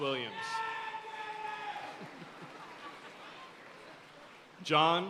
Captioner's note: audience cheering and applauding